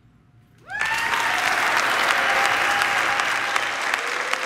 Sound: audience applauding

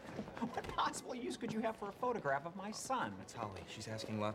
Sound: laughs

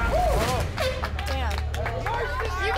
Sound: horn blast

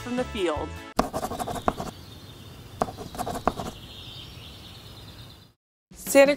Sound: pencil scratching; birds chirping

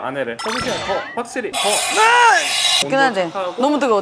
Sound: hiss

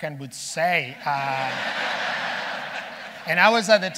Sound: audience laughing

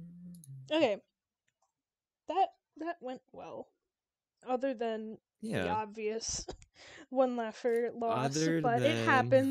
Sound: laughs

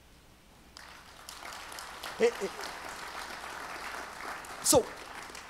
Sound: audience applauds

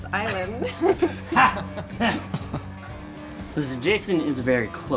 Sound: laughing

